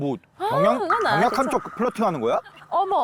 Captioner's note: instant suspicion sound effect